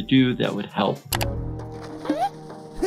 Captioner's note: mouse clicking